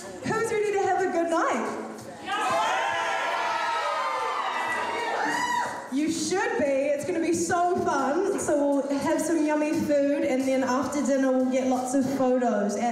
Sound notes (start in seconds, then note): 2.2 cheering